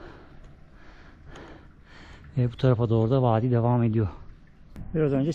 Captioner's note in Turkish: iç çeker